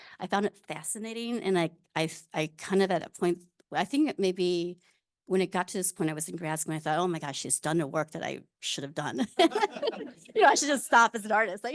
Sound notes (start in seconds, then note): 9.4 audience laughing